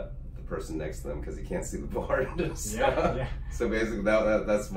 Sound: laughs

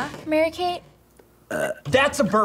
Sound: burps

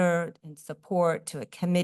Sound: none

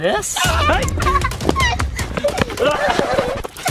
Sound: screams

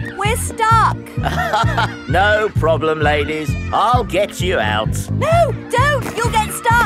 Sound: chuckles

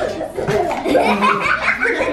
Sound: all laugh; coughing

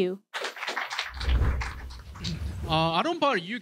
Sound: clapping

